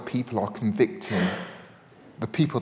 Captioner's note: attendee sneezes